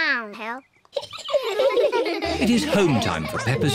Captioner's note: all giggle